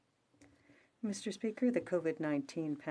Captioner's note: speaking French